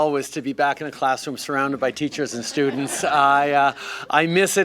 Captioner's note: laughter